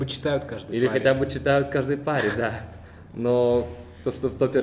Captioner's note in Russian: тихо смеётся